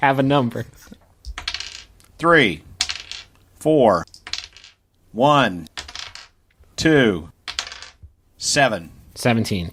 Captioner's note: dice rolls